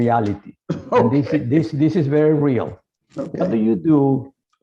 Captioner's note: laughs